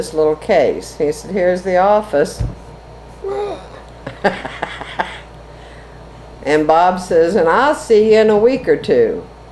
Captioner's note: laughs